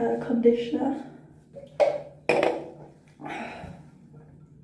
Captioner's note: sigh